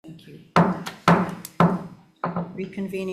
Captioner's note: gavel pounding